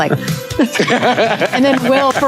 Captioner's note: group laughing; clapping